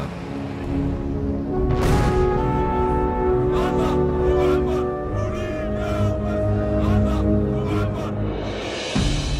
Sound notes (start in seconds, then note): 3.4 all chanting